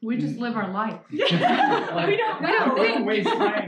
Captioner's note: laughter